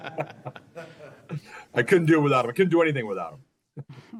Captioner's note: laughter